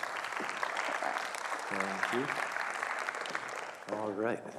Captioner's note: crowd applauds